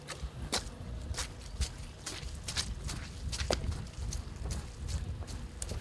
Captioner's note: running footsteps squelching in mud